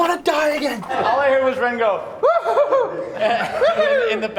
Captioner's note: laughter; whooping